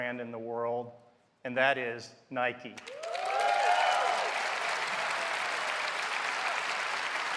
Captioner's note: cheers and applause